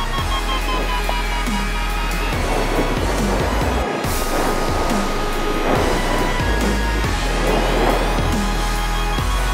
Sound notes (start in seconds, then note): 0.0 alarm slows; 0.7 wind whooshing; 4.8 strong wind gusts; 9.0 alarm accelerates; 9.0 wind whooshing